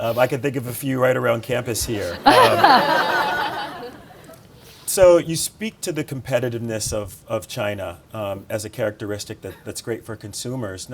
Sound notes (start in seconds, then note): 1.7 audience laughing